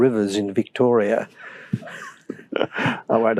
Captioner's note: laughter